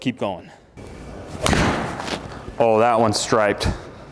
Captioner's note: thud